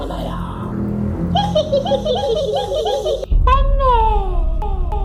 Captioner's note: laughing insanely